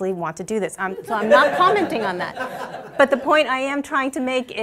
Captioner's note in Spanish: Risas